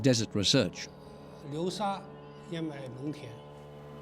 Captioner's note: speaking Chinese